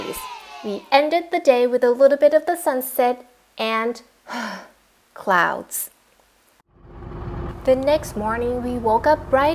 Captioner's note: sigh